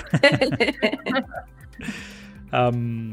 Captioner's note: laughs